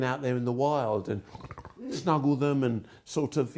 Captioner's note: snarling